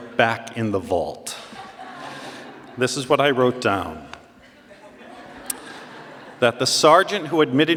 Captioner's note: laughter and clapping; more laughter